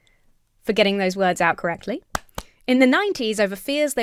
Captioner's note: claps